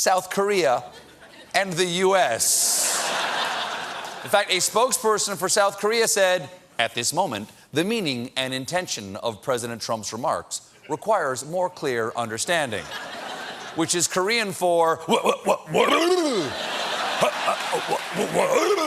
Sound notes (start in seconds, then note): 2.8 laughter